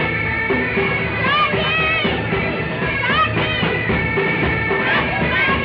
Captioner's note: bystanders calling out